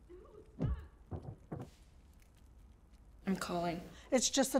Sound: thud sound

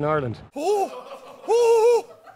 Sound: irish accent

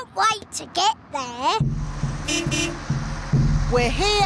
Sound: horn beeps

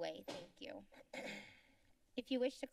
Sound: clears throat

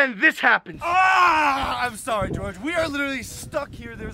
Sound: screams

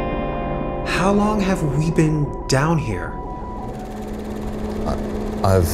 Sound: male Voice

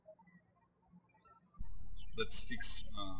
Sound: birds chirping

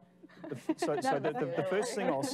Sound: laughing

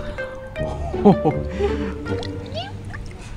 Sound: laughing

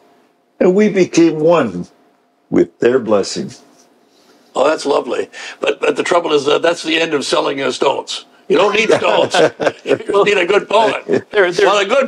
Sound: all laugh

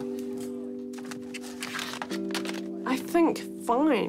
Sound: papers rustle

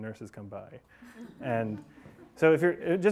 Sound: class laughing

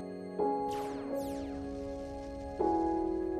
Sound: gaming sounds

